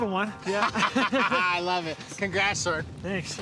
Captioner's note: laughing